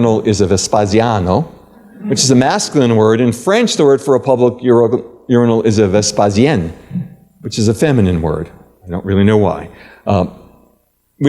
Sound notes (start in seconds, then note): 0.5 italian; 6.7 french